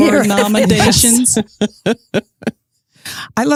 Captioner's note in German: Lachend